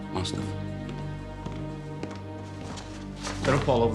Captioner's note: footsteps